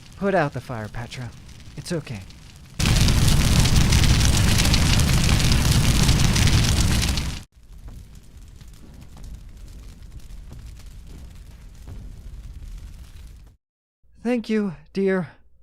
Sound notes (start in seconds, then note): 2.8 flames simmer to a soft crackle as faint footsteps emit